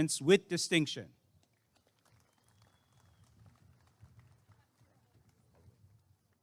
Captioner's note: applause and cheering